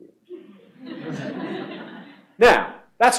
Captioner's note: laughter